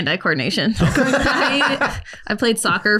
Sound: laughs

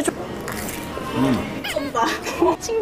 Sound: crunchy Sound

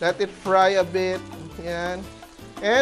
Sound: sizzle

